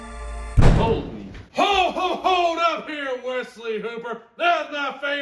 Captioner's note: slam